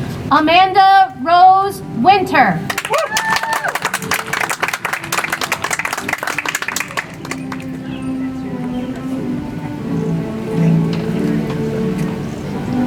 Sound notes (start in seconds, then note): 6.3 audience applauds; 10.2 soft music